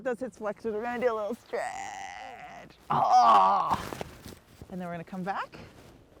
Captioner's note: groans